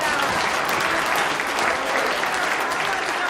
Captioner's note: applause